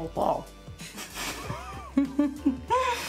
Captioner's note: laughs